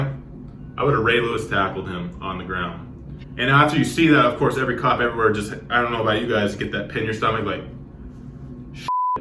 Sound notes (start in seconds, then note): 8.8 beep